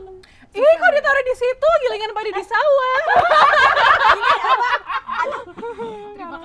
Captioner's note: impersonating